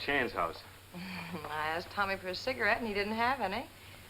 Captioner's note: laughs